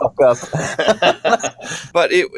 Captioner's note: laughter